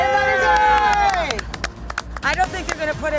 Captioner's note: applause